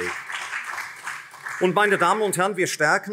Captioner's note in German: Beifall CDU und SPD